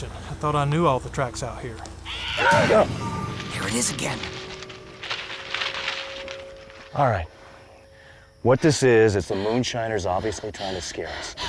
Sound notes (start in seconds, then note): 2.0 animal shrieks; 4.5 branches rustling